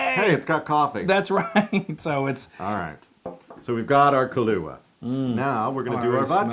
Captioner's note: laugh; laugh